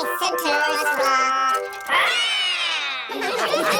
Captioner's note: all roar; all laughing